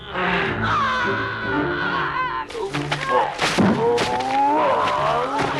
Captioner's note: Torente moans; Hundra yells; Torente shouts